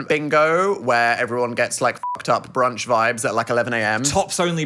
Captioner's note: beep